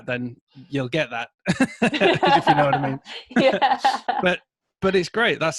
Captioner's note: laughing